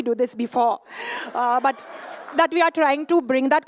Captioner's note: laughter